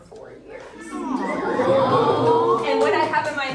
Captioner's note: audience cooing and whistling; hands clapping